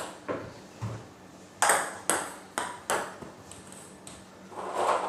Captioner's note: balls ping pong hitting